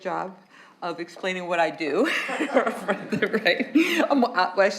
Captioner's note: laughs